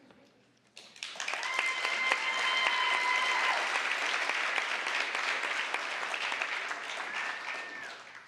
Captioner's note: applause, cheering